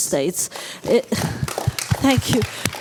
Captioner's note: applause